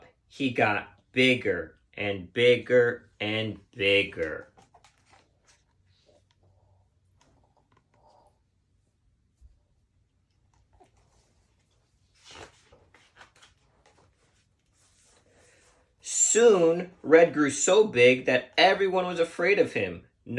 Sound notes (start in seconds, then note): 4.8 book squeaking; 12.7 page turning